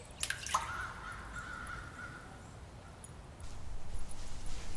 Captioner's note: splash with echo; birds cawing